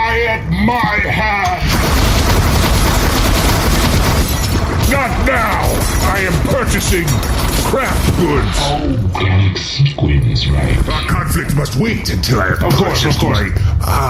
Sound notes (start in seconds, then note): 1.6 fires machine blaster wildly; 9.3 stops firing